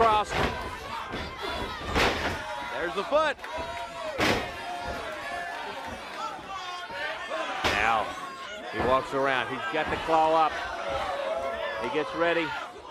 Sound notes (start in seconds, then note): 0.0 crowd cheering; 2.0 crowd chatter